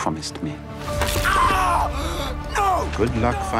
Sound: bone cracking; screams

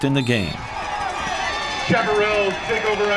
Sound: crowd cheering

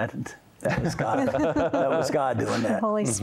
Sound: laughter

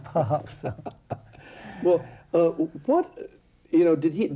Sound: laughs

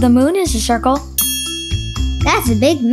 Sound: bell dings

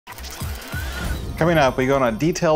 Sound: gears whirring

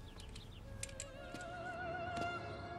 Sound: none

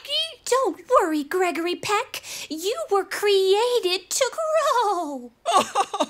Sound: laughing

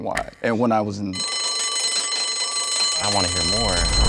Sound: bell dings

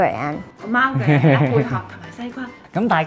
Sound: laughing

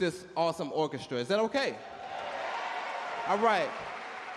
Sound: audience cheer and clap

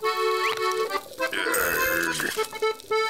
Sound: groaning

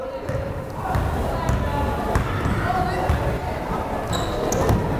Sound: crowd chattering

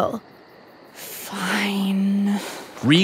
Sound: long sigh

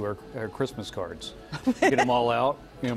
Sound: laughter

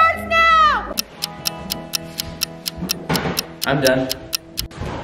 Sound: timer ticking

